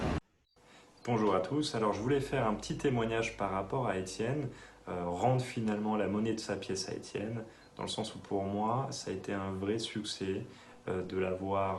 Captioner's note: French